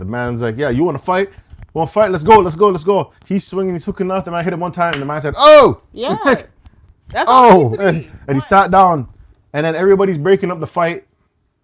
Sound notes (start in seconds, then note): none